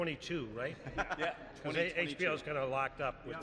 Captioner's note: laughs